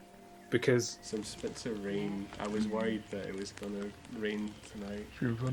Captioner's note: sound of rain and bird song